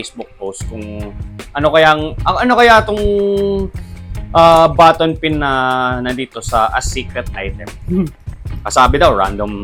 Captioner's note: laughs